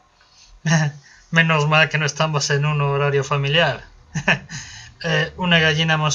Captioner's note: nervous laugh